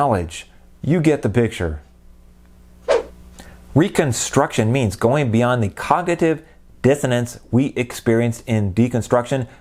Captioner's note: swoosh